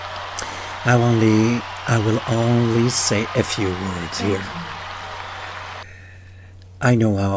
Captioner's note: applause